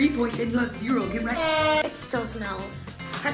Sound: air horn blasts

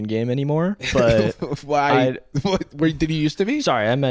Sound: chuckles

